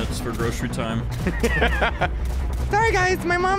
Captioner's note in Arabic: يضحك